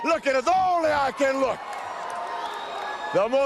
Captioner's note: crowd cheering